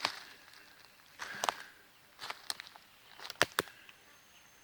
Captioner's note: twigs snapping